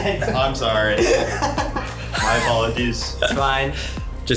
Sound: laughs

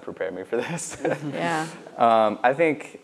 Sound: laughs

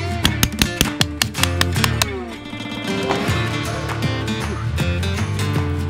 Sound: rapid hammer clanking

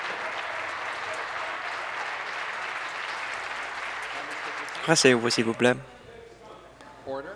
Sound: applause

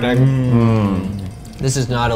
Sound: eating heartily

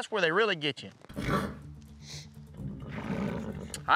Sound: horse grunts

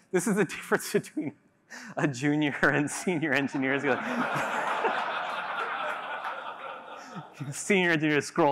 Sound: laughter

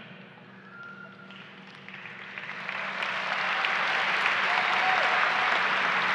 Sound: applause and cheering

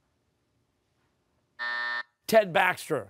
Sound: buzzer

